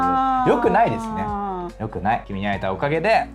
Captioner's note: laughs